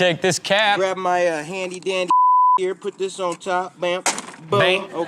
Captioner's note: beep